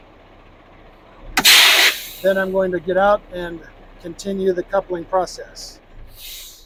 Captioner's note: air brakes releasing